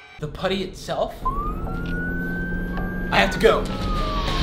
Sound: siren goes off

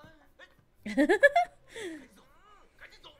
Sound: laughs

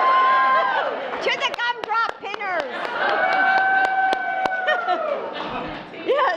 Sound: applause; laughter; applause and laughter

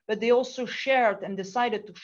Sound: none

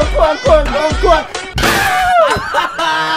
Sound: mimics the music played at a temple fair

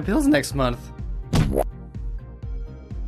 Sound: womp

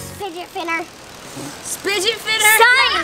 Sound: laughing

